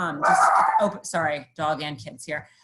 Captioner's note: dog barking